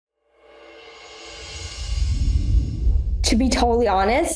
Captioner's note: air whooshing